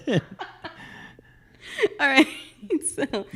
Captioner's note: laugh